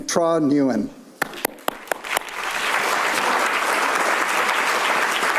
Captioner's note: attendee applaud